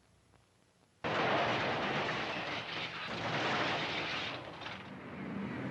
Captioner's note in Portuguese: Estalos da porta de aço